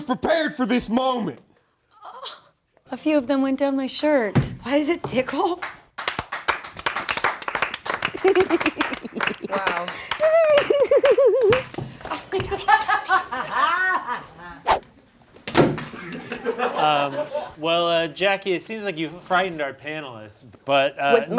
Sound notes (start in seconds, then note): 5.4 audience clapping; 13.6 laughing